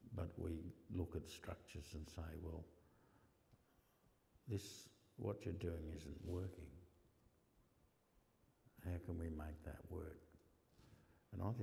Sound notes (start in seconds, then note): none